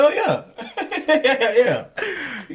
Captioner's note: laughing